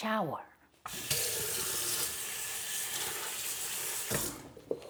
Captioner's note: water splashing